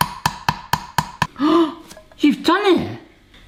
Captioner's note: hammer taps; gasping